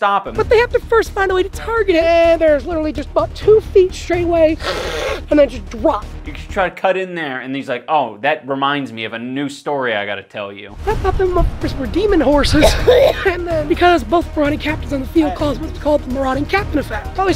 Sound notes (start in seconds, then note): 4.6 hissing; 12.6 severe coughing